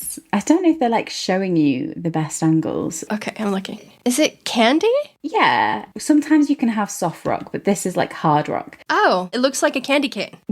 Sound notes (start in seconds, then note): none